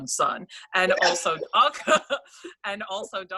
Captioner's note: laughs